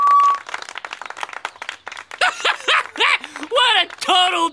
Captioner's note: applauding; laughing